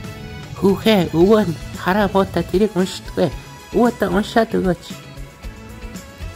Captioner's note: old man's voice